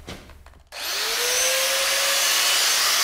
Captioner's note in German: Lautes Maschinensurren